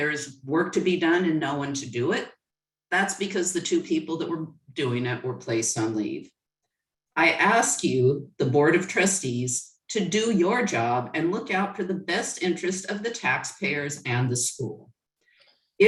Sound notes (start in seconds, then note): none